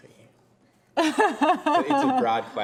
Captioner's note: laughs